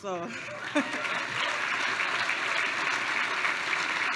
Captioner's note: applause